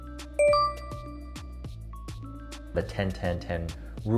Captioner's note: bell rings